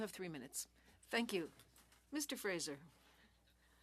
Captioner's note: speaking French